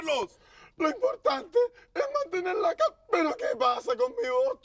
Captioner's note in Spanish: Con voz de Juanín